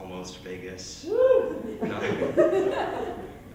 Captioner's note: laughter